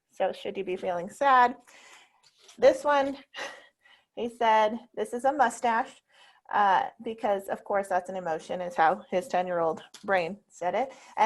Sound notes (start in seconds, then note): 3.5 chuckles